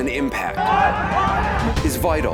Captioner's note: crowd shouting